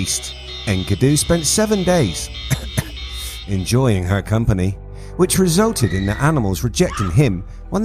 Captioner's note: cough cough